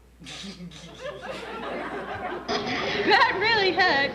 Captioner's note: laughter